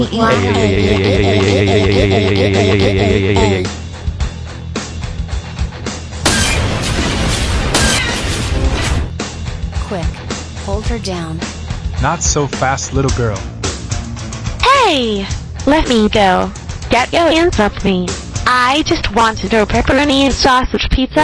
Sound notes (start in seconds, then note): 0.1 Eliza and the cashier screaming; 6.2 crash